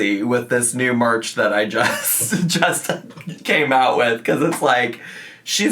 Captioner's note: laughs